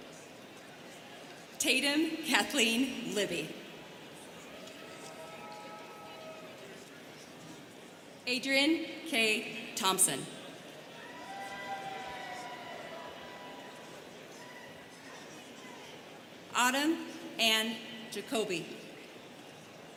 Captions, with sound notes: Tatum Kathleen Libby. (students chattering) Adrianne Kay Thompson. (students cheering) Autumn Anne Jacoby.